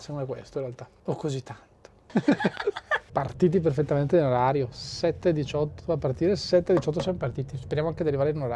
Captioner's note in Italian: risate